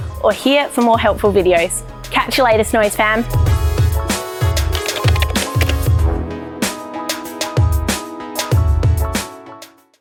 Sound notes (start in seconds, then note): 3.5 upbeat music; 4.7 keyboard clatter